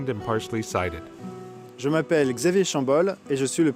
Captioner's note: speaking french